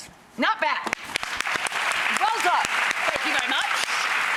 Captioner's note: applause